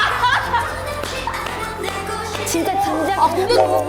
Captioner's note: burst into laughter